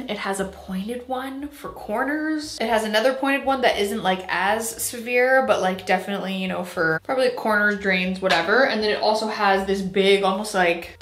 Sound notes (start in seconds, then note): none